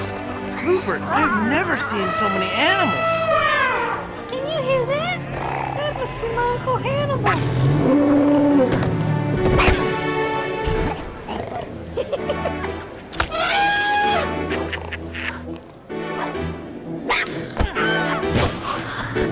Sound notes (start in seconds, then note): 3.9 elefante trompeando